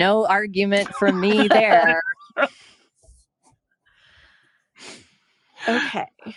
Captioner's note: all laugh